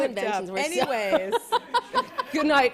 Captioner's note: laughter